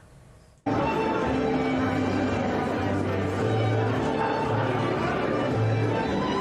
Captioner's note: attendees chattering; cool music